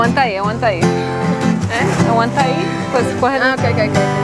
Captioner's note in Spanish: chattering